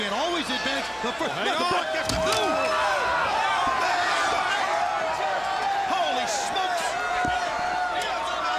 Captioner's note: crowd chatter